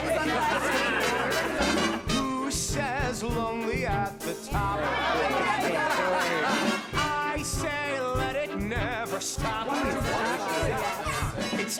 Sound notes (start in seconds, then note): 0.0 lively chatter, laughter; 4.6 lively chatter, laughter; 9.4 lively chatter